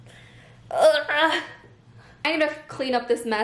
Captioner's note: groans cheerfully